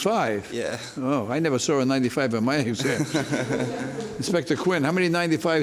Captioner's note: laughs